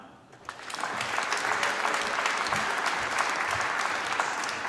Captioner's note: applause